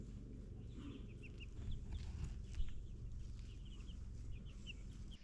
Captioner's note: birds chirping